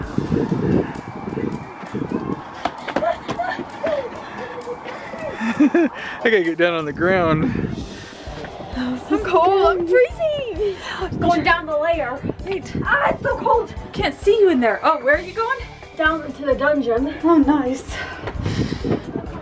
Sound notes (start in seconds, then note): 2.4 fast panting; 5.6 laughing